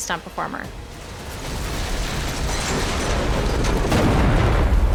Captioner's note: vehicle crashing